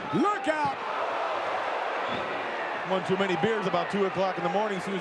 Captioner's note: audience cheering